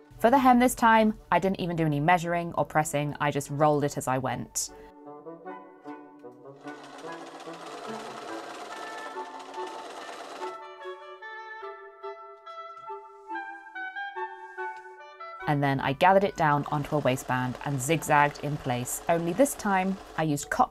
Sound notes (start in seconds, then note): 9.3 machine whirring